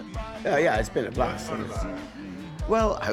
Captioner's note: off camera voice